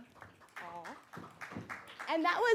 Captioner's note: audience clapping